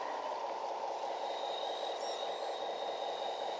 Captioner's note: engine running